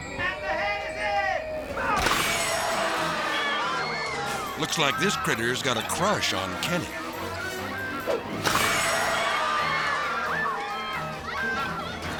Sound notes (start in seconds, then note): 2.2 jaws snapping; 3.2 crowd shouting; 8.3 jaws snapping; 9.5 crowd shouting